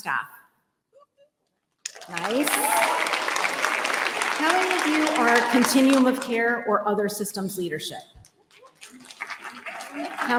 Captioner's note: applause